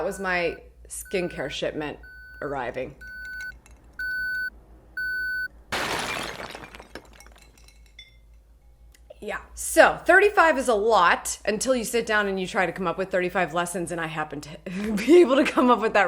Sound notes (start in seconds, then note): 0.0 beeping; 5.7 bricks collapsing